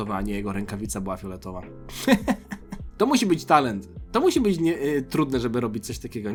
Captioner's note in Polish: śmiech